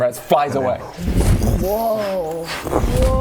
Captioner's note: wooof